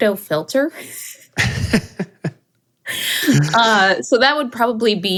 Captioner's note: laughing